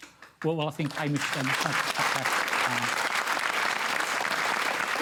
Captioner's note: applause